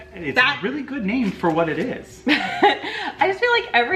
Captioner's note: laughing quietly